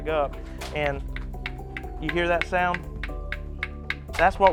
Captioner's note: shells clacking